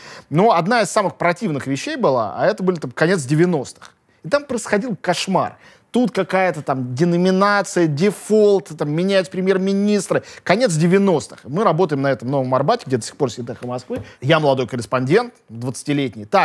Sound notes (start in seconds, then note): none